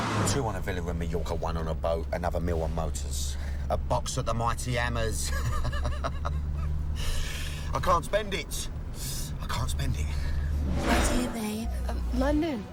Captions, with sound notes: TWO ON A VILLA IN MAJORCA, ONE ON A BOAT, ANOTHER MILL ON MOTORS. A BOX AT THE MIGHTY HAMMERS. ( laughs ) I CAN'T SPEND IT. I CAN'T SPEND IT. - WHERE TO, BABE? - UH, LONDON.